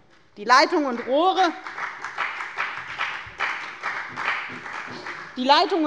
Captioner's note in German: Beifall bei der FDP und bei Abgeordneten der CDU